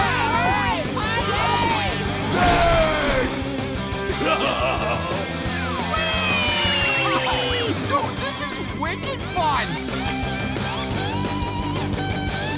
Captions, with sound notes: -All right, party! -Zeg! [laughing] Oh dude, this is wicked fun.